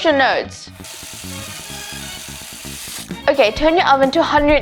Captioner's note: faucet running